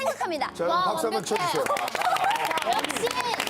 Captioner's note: round of applause